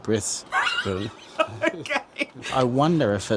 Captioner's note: laughs